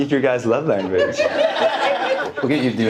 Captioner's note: audience laughing